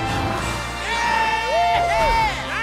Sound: all cheering

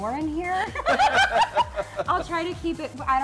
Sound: laughter

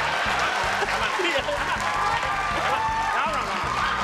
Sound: audience cheering

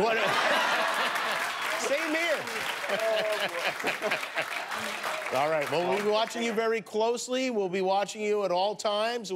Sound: laughter

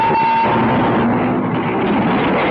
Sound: train rumbling

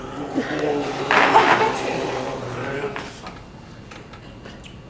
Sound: gargles the liquid nitrogen and makes gargling sounds

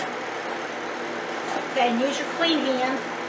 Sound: KitchenAid machine roaring

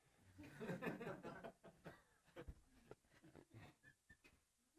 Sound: audience laughs

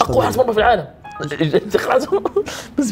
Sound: laughs

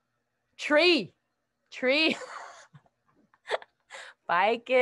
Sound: laughs

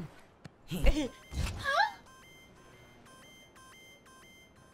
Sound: soft chiming alarm

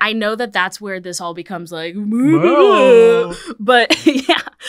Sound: babbling

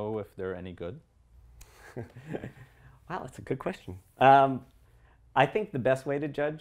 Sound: laugh

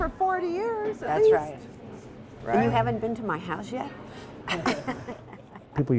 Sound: laughs

